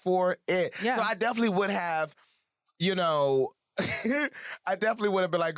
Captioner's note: laughs